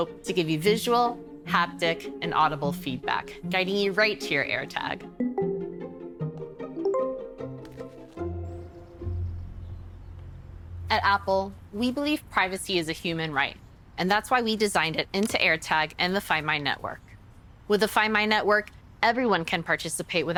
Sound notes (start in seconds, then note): 5.2 low tone; 6.7 bright chime